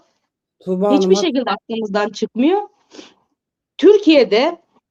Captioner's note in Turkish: homurdanır